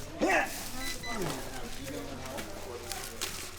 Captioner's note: grunting